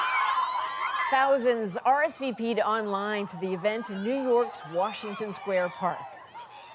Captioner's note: crowd noise